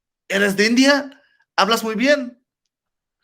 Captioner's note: Spanish